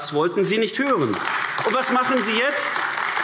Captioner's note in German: Beifall AfD